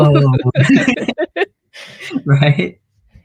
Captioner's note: laughs